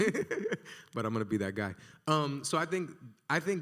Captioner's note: laughs